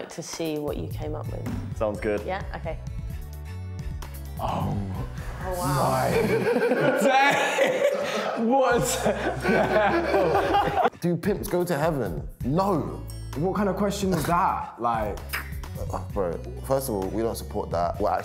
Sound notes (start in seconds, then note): 8.6 laughing